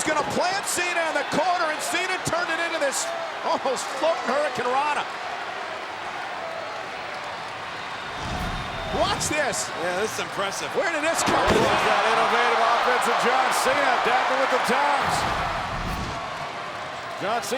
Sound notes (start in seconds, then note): 8.2 graphics whooshing; 11.4 body thudding; 15.0 graphics whooshing